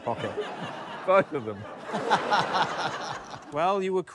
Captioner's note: laughter